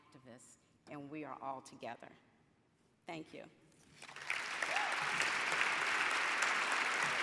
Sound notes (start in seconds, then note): 4.0 audience applauds